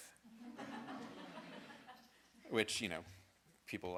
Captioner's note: audience laughing